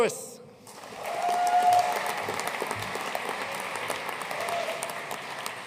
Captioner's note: audience cheering and applauding